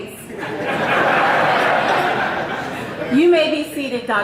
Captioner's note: audience laughing